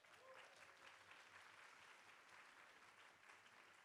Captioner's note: clapping